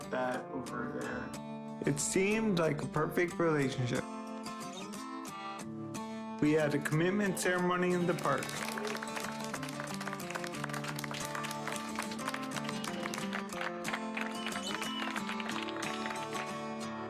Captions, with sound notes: That over there. It seemed like a perfect relationship. We had a commitment ceremony in the park. (clapping) (subtle music)